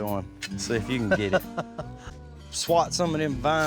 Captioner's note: chuckles